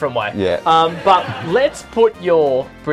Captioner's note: laughter